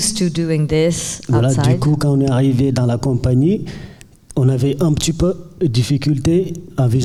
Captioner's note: speaking in French